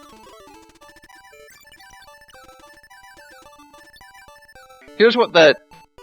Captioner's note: silence